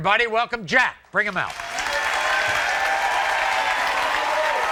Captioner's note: audience cheers